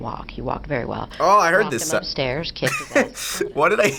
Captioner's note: laughs